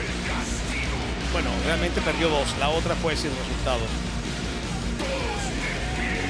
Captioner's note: commentator speaking Spanish